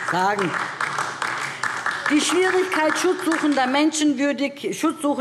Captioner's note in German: Beifall DIE LINKE